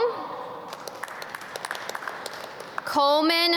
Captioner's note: audience clap